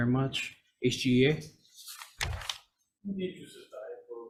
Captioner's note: paper rustling